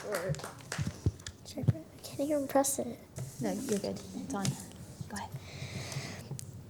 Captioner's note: applause